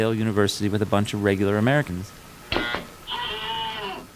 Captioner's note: screams